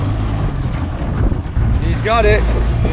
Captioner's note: motor rumbling